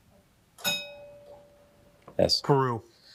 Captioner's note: bell dinging